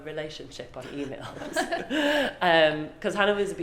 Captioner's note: laughing